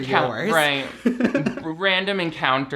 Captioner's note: laughs